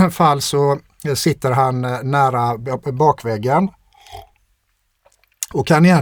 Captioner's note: clears throat